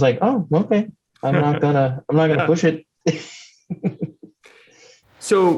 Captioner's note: laughs